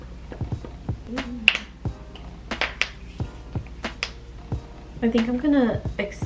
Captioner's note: cracks knuckles loudly